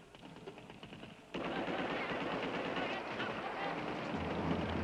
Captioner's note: rapid gunfire